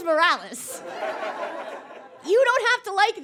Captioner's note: audience laughs